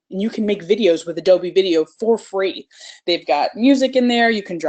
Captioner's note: none